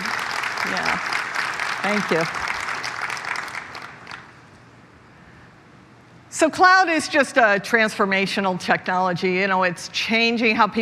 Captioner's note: applause